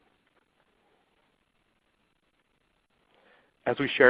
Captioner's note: silence